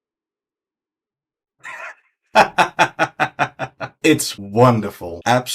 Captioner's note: evil laughter